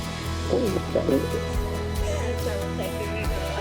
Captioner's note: mumbles; speaks in foreign language